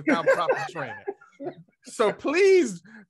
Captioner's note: laughing